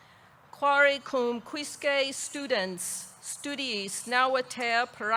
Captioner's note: speaks in foreign language